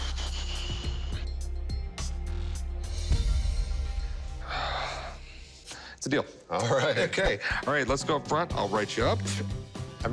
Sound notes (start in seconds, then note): 4.4 sigh